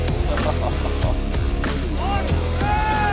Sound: man laughing; upbeat music

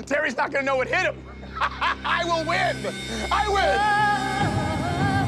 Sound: laughs

